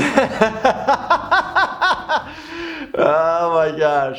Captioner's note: laughs